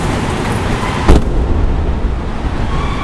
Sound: car door closes

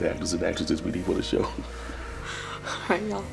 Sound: chuckles

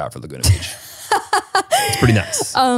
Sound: laughs

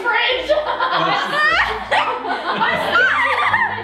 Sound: laughs

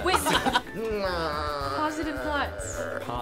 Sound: whimpering

